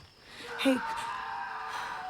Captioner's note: jacob screaming